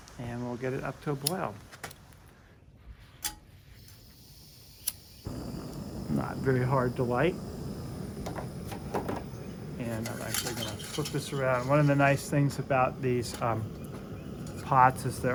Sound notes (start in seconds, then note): 1.1 lighter flicks; 3.8 burner hissing